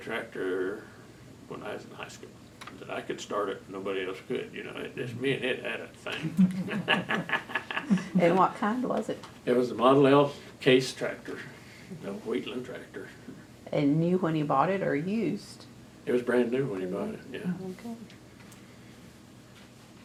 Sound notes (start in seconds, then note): 6.1 laughs